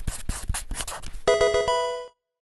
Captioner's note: pen writing; Pokemon game sounds